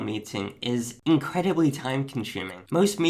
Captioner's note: clock ticks